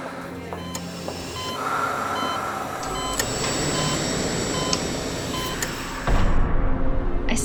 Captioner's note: medical equipment sounds